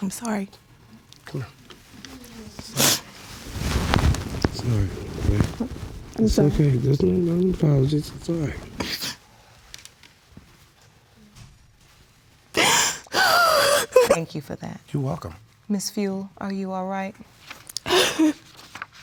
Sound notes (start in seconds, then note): 2.8 sniffs; 12.6 sobbing